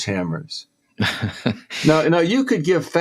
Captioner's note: laughs